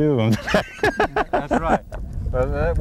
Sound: laughter

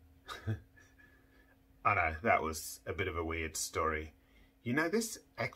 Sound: chuckles

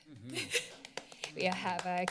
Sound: clapping

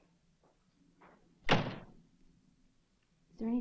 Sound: door slams

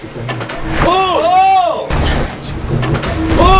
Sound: slam

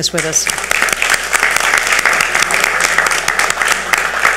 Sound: audience applauds

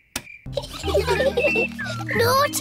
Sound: children giggling

